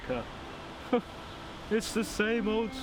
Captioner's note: chuckles